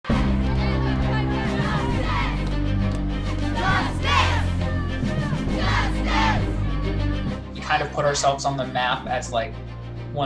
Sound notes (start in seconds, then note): 0.0 crowd; 0.6 dramatic music